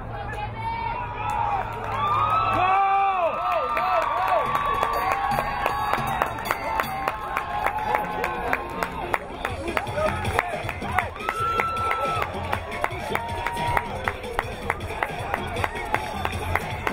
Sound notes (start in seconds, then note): 5.8 crowd applauding; 5.8 crowd cheering